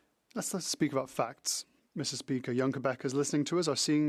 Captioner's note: speaking French